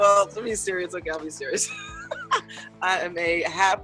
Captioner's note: laughs